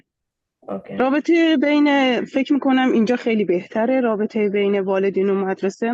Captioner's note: speaking in Dari